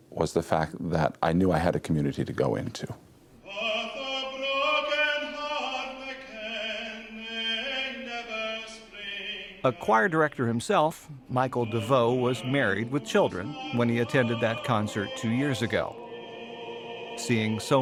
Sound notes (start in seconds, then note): none